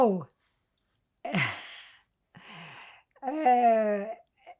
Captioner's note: pauses 13 seconds